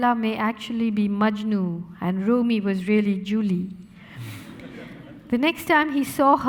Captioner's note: audience laughing